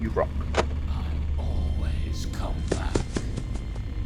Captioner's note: footsteps